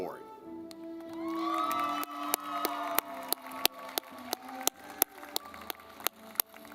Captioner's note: audience clapping